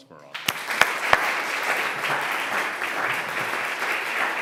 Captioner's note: applause